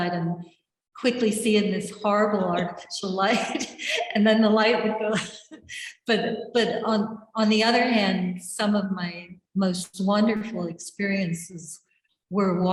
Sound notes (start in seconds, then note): 3.2 laughs